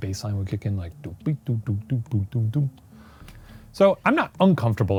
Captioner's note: mimics bass